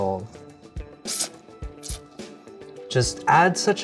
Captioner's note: slurping